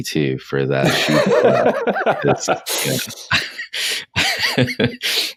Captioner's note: laughing